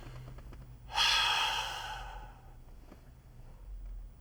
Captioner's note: sighs